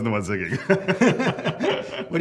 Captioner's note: laughter